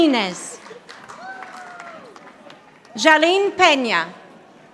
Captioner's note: audience applauding